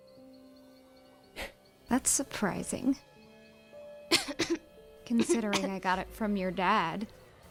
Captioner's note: chuckles